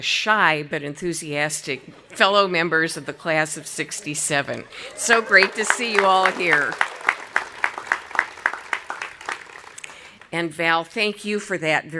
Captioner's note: audience applauding